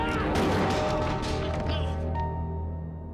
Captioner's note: gunshot